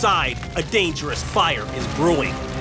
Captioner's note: siren wailing